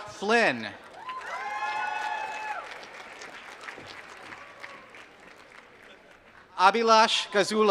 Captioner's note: applause